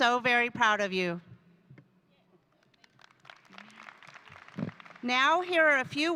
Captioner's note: audience applauding